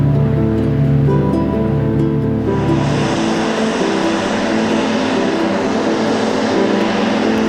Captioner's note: motor whirring